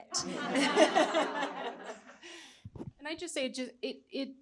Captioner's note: audience chuckling